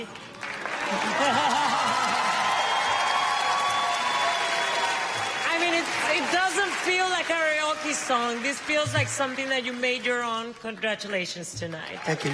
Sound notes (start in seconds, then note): 0.9 laughs; 4.5 cheers and applause